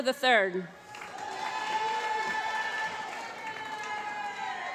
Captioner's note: applause